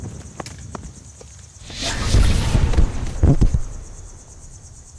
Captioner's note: explosion